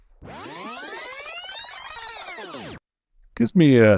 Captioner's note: fast forward sound effect